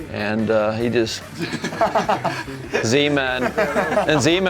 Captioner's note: laughing